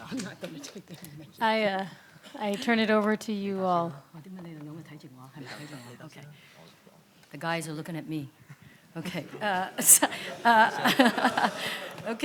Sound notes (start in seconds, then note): 4.4 speaks in foreign language; 9.8 everyone laughs